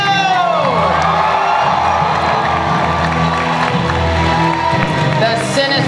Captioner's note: audience cheering and applause